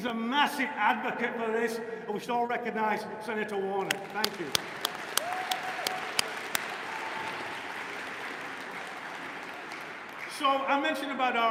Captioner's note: applause